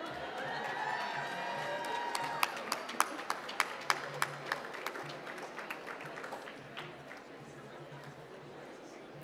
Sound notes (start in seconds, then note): 2.7 applause